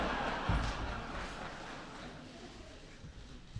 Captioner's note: laughter